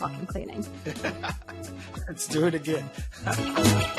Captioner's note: laughs